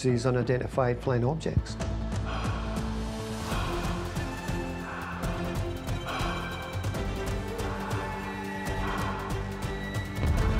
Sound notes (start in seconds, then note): 1.5 tense music continues; 2.0 pilot breathing